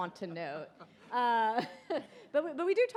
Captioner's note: laughs